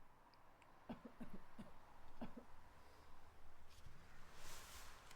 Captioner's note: man coughing distantly